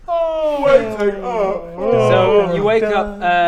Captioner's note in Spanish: bostezos